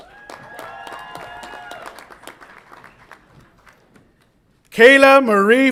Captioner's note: audience applauds and cheers